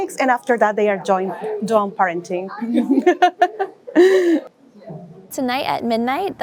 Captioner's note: laughs